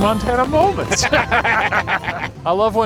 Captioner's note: laughs